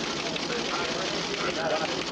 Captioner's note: printer whirring